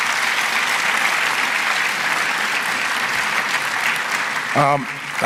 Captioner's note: applause